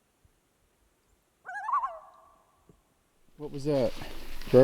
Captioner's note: birds chirping